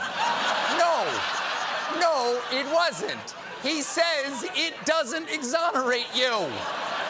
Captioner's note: laughter